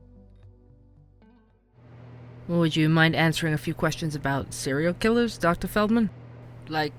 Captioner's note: ambience - office